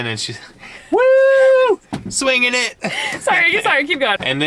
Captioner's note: hoots